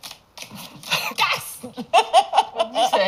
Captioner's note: laughs